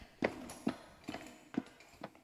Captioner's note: receding footsteps